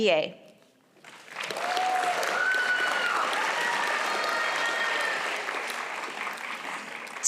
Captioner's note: applause